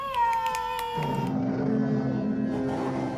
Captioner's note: creepy voice